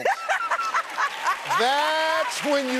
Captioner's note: laughs; audience applauding